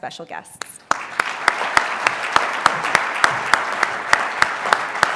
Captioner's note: applause